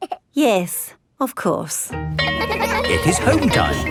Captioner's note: giggles; school bell rings